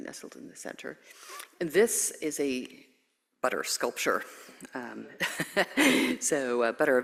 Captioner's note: laughs